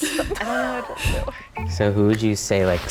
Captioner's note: contestants chuckling softly